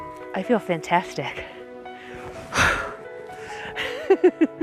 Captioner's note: exhales; laughs